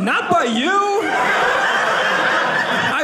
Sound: audience laughing

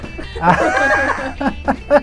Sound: laughs

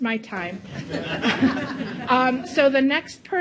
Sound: audience laughs

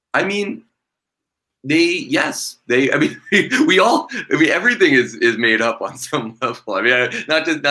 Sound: laughter

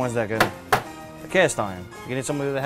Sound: knocks

